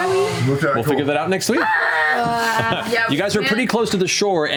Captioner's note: yelling